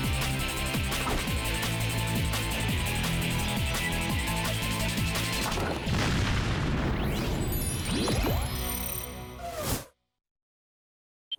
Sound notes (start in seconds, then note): 5.5 explosion